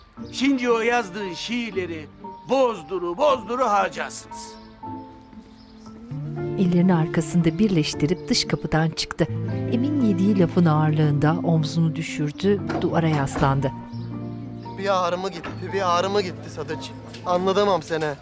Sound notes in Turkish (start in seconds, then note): 4.9 Müzik - Hüzünlü; 12.6 Kapı sesi